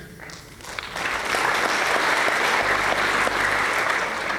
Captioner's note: applause